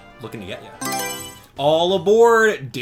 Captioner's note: Mario Selection Sound